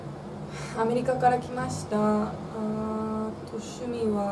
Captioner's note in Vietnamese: Thở dài